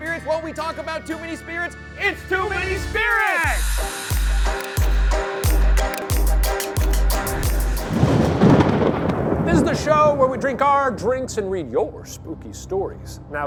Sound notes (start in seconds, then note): 4.0 upbeat spooky music; 7.0 thunder cracks